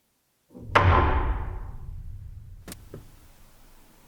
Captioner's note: wood thuds; static crackles